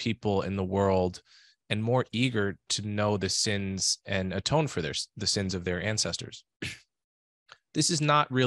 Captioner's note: cough